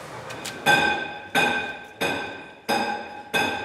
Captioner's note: hammering in the background